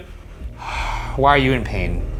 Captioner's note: sighs